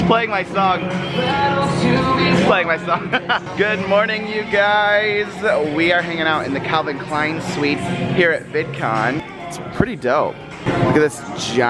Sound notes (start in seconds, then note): 0.0 music playing indistinctly; 2.8 laughs